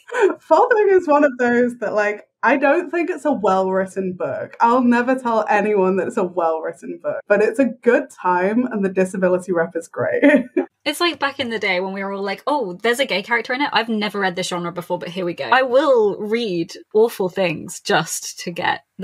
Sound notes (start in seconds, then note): 9.8 laughs